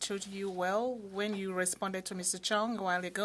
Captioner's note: speaking French